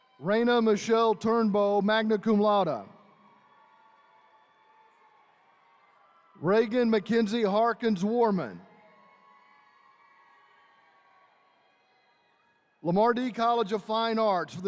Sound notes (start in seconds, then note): 0.0 attendees cheering; 3.1 attendees cheering; 9.0 attendees cheering